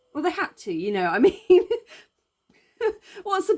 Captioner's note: laughing